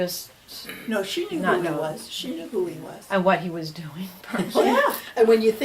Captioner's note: laughs